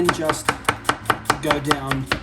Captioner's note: blunt metal hitting plastic